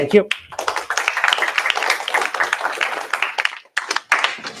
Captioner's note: applause